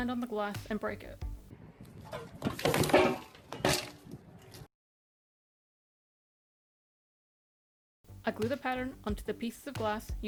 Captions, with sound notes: on the glass and break it. [crash noises] I glue the pattern onto the pieces of glass